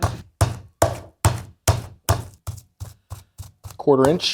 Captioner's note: tenderizer thumping